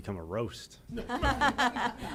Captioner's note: laughter